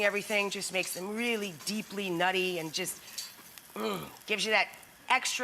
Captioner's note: groans